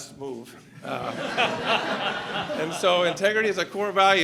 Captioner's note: laughter